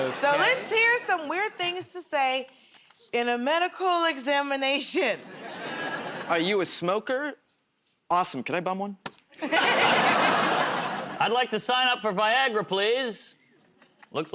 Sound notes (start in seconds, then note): 3.2 nervously; 9.3 laughter